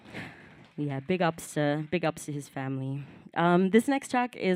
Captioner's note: applause